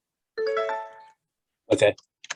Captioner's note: software notification ding